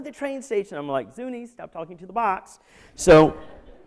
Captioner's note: laughter